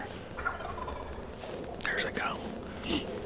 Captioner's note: turkey gobbles